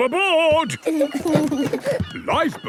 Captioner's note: both giggle